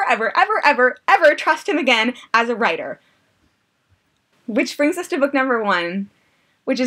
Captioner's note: deep breath